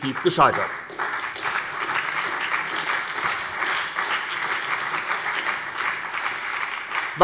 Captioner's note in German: Beifall bei der SPD und der LINKEN